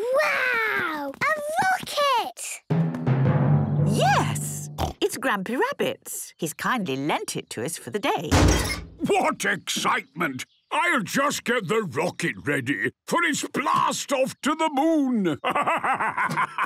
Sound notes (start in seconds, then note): 8.3 metallic door bursting